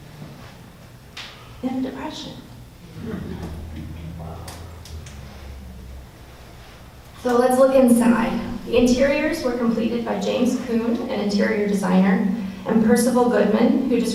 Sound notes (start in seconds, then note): 2.9 audience laughs